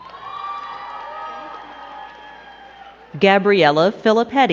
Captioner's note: crowd cheering and clapping